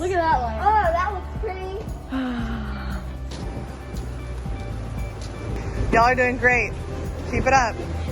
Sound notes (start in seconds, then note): 2.0 sighs